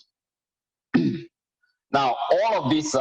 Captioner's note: clears throat